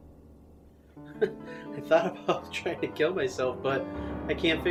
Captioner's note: chuckles